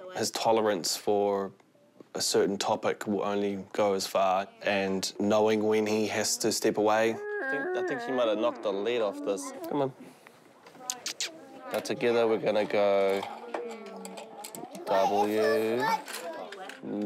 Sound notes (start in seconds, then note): 6.8 groans